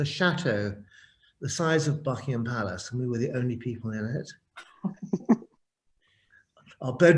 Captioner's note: laughs